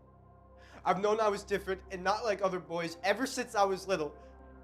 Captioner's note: voiceover